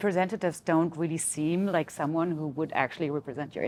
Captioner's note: none